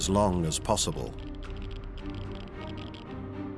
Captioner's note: geiger counter clicking